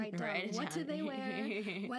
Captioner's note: laughing